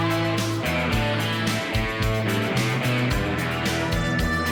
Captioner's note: people chattering